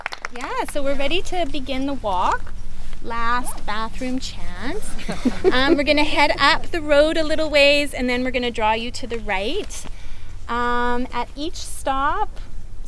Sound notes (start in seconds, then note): 4.8 light laughter; 10.5 chuckles